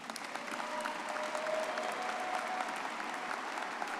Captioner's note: all applauding